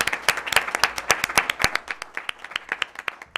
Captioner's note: applause